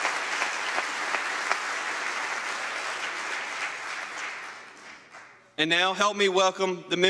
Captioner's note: applause